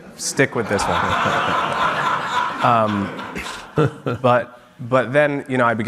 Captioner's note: audience laughing